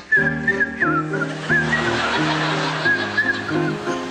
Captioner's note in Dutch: Hij fluit